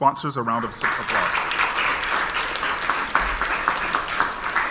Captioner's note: audience applauds